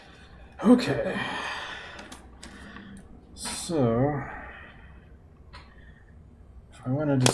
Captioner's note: sighing